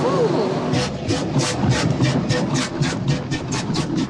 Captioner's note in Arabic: صوت القطار